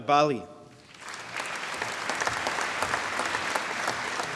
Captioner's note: applause